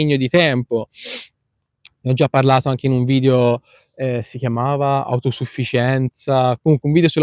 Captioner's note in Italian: sbuffare